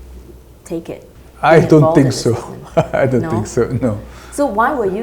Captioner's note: laugh